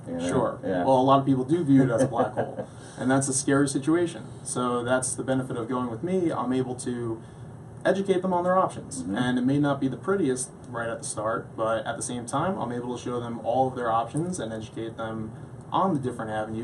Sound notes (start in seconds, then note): 1.8 laughs